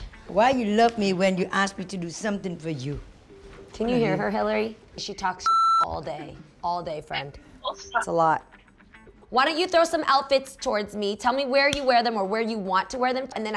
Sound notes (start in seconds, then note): 5.4 beeping